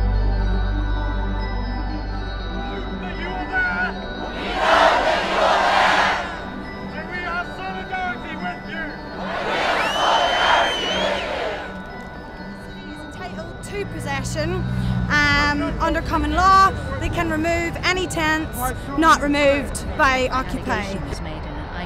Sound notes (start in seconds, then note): 3.7 gentle, twinkling music; 4.3 people shouting; 8.8 crowd